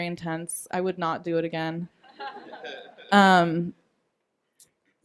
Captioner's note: laughing